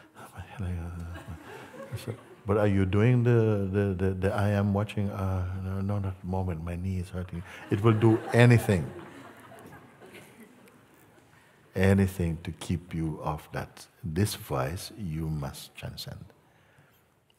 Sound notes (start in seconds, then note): 7.4 laughter